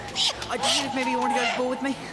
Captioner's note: owls squeaking